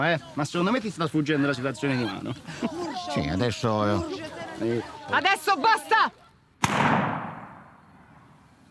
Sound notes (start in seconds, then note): 2.0 Starlotha giggling; 6.6 gunshot